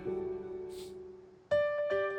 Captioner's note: sniffles